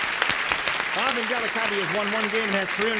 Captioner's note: applause